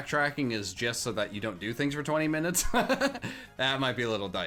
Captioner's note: laughs